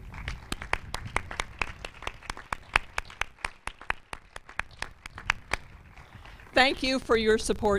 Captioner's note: applause